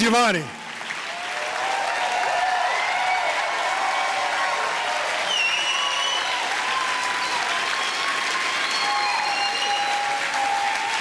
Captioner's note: audience applause